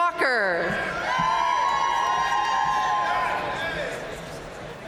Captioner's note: audience cheering and applauding